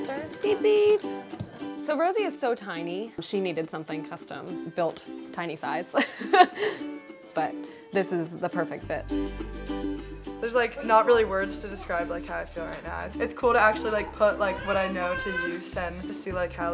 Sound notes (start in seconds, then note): 6.0 laughs